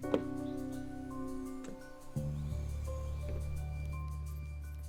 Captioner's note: trunk whooshing